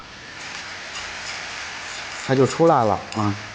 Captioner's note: it Sizzles as the Sauce Hits